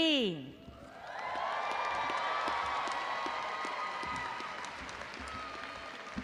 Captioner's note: crowd cheering and applauding